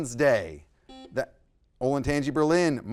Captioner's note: buzzer buzzes